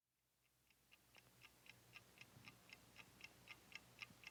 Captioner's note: clock ticking